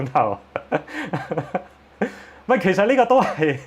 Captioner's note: laughs